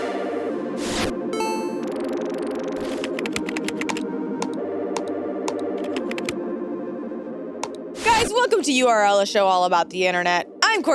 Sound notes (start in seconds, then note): 0.1 soft ambient music; 2.7 keyboard clicking